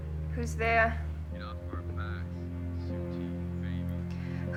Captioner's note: on phone